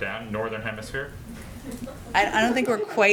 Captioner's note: laughter